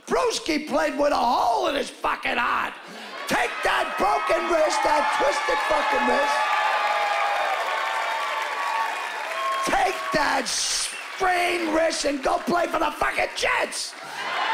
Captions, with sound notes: "Bruschi played with a hole in his fucking heart. Take that broken wrist, that twisted fucking wrist..." (cheering and whooping) "Take that sprained wrist and go play for the fucking Jets!"